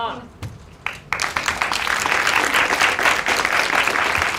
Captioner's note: applause